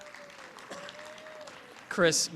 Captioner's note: applause